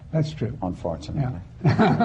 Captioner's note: laughter